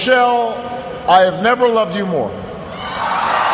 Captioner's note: cheers, applause